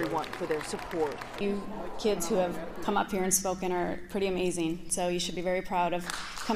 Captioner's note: applause